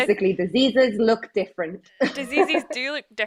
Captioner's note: laughs